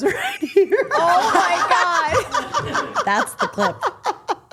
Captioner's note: group laughing